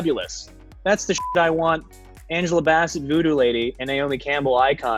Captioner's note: beep